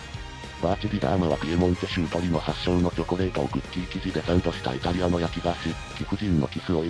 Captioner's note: Italian